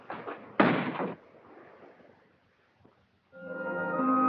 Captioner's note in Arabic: يُغلق الباب بقوة; موسيقى متدحرجة